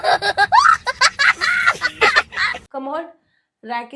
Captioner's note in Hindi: हंसी